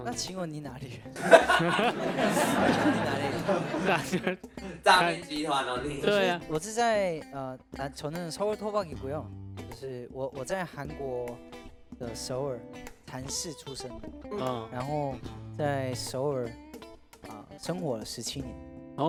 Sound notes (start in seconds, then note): 6.6 in Korean